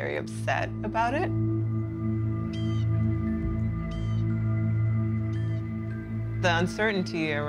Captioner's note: bird cawing